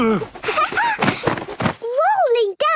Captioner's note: laughing